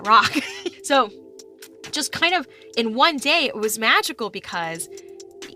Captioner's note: chuckles